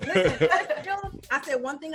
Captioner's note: laughing